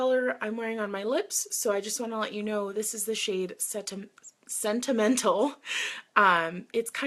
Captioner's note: laughs